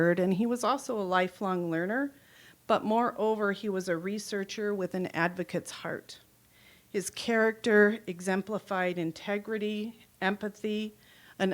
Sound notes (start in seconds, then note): none